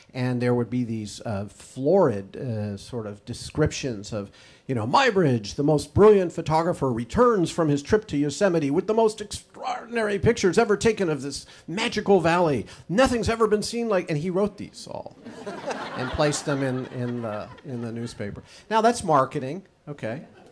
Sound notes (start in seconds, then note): 15.2 audience laughs